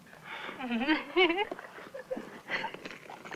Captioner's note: Judy giggling